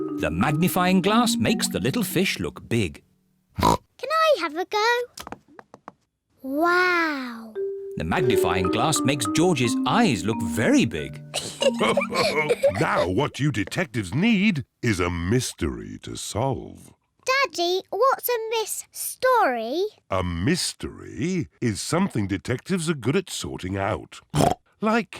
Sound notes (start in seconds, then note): 3.6 oinks; 11.3 both laugh